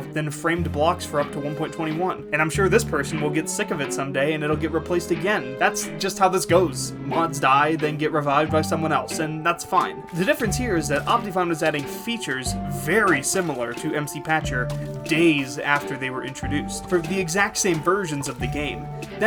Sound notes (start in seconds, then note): none